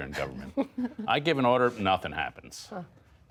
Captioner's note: laughter